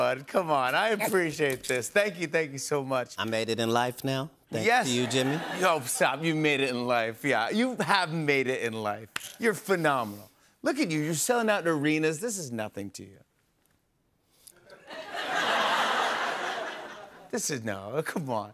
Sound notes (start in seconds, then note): 14.7 laughter